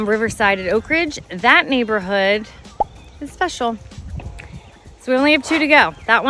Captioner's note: photo pops